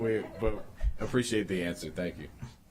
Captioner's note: laughter